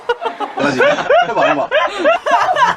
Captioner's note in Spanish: the best laugh in the world